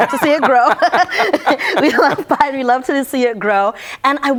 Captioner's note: laughter